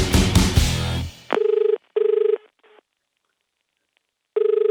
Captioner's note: phone dial